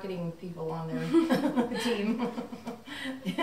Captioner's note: laughing